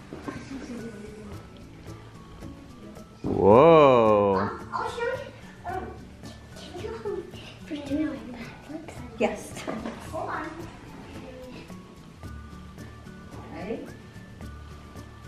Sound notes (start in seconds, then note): 7.8 whispers